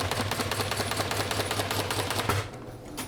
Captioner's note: machine rustling; machine shaking